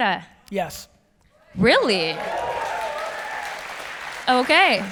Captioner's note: audience applause